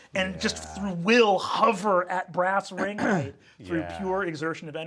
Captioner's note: throat clearing